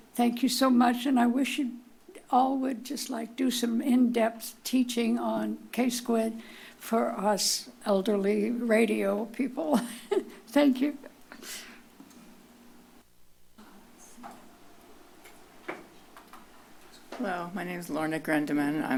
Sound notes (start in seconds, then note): 9.7 chuckles